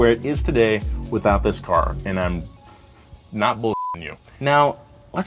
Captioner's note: beep